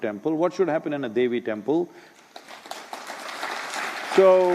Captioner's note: applause